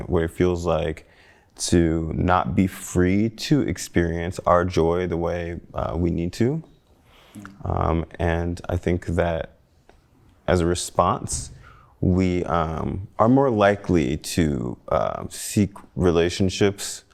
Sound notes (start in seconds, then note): none